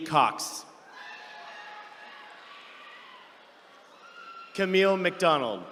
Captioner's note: attendees cheering